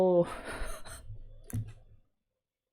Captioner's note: laughs